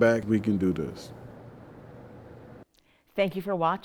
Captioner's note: ambient air